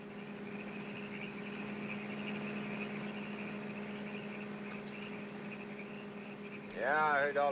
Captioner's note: car engine hums; frogs chirp